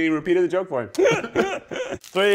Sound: laughing

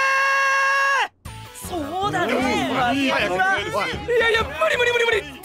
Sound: all agreeing

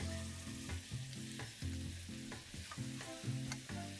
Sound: sizzling

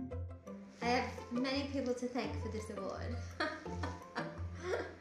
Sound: laughs

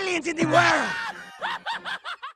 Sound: Evil Ren Laugh

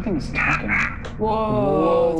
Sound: muffled voice

